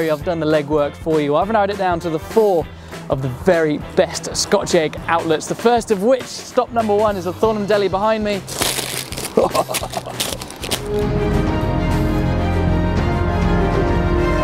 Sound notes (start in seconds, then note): 9.2 chuckling; 10.7 dramatic music